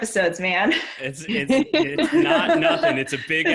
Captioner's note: people laughing